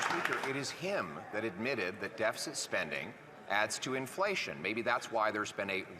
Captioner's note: applause